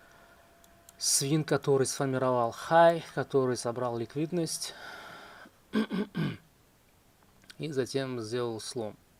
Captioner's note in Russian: кашель; откашливается